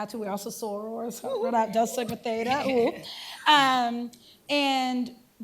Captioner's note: non-english